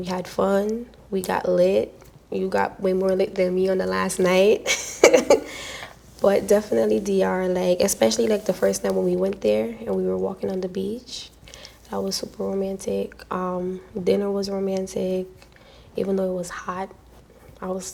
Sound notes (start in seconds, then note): 4.6 laughs